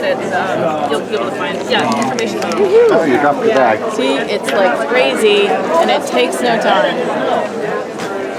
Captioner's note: crowd noise